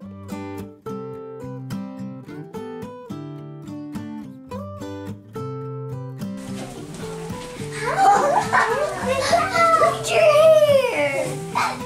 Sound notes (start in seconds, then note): 0.3 cheerful guitar music; 6.4 children laughing